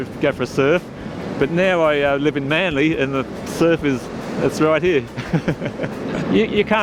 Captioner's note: laughs